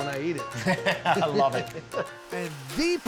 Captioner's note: laughs